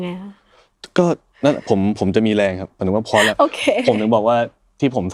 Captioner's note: laughs